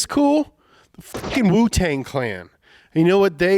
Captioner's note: beep